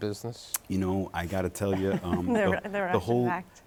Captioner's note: laughing